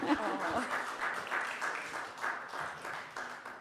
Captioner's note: applause